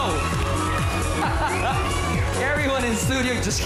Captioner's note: chuckles